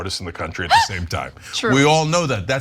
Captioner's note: laugh